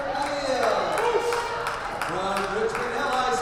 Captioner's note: crowd cheers